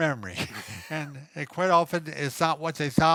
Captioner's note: chuckling